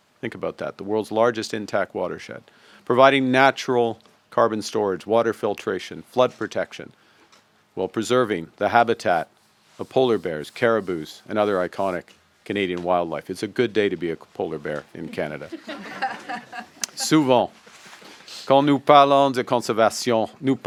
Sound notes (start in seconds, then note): 15.1 laughter